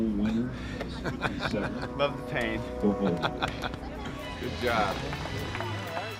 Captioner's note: laugh